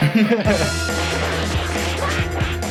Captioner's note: punching